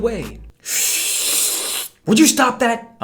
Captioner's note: slurrppppp